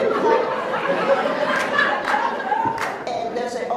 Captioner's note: laughs